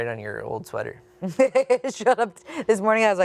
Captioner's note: chuckles